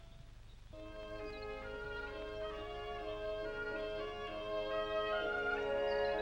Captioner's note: birds chirping; light music